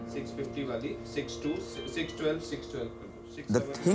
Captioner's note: talking in background